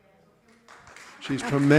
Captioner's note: audience applauding